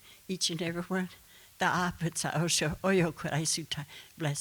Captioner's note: speaking Comanche